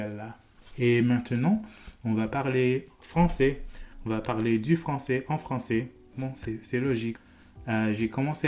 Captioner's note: French